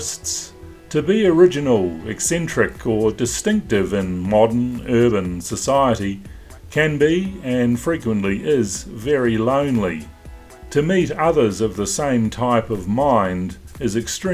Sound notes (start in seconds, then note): none